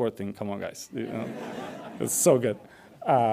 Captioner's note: audience laughs